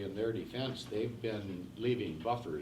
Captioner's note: none